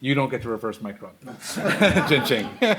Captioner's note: laughter